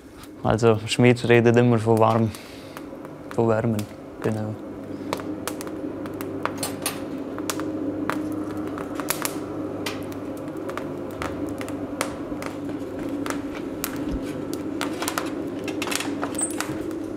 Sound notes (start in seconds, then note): 4.9 crackling